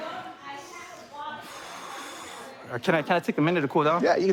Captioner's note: exhales